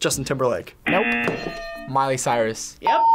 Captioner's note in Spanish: zumbador